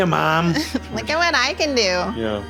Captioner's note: laughs